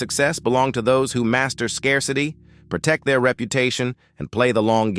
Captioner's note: SFX: deep resonant chime